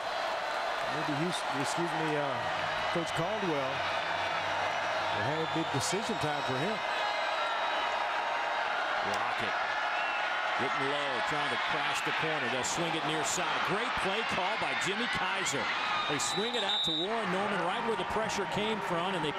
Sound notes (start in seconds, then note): 7.2 crowd noise